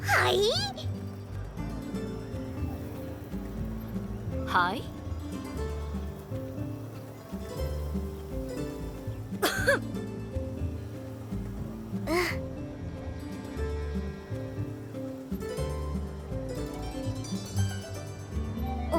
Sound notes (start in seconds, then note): 9.4 ahem